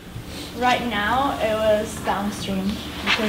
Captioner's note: voiceover